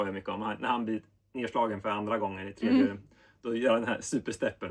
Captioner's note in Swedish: harklar sig